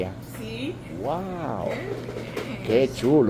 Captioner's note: laughs